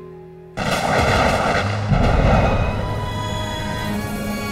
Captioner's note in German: Donnergeräusche